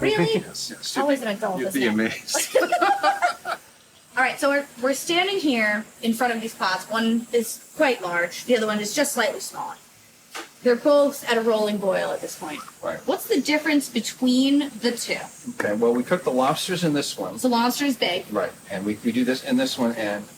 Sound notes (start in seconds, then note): 2.2 laughter